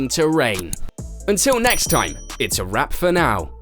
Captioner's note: bell dinging